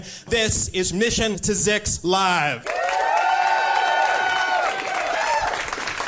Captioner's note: applause, cheering